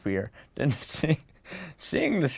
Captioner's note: laugh